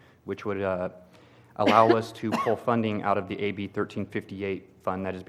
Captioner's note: cough